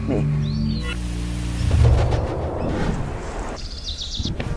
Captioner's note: leaves rustling; birds chirping